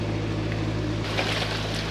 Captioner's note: water splashing